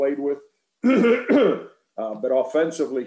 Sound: Frank coughing

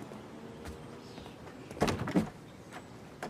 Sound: door handle rattles

